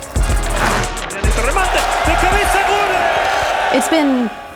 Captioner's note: non-english speech